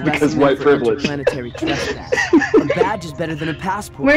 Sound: laughter

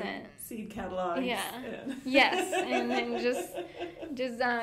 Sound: laughing

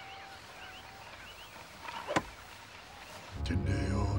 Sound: chopping; non-english speech

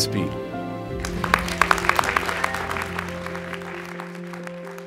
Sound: audience applauds

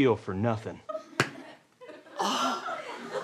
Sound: smack

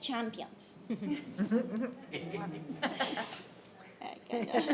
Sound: laughter

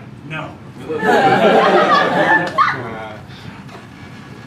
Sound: laughter

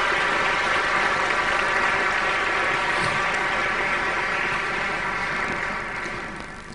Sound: applause

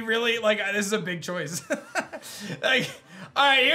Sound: laughs

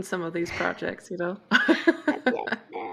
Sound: laughter

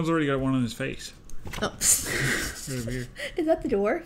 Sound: laugh

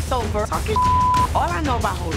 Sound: beep sound

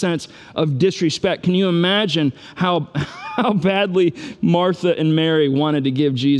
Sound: laughs

